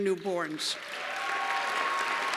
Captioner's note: cheers and applause